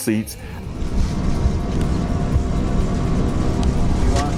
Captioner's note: aeroplane engine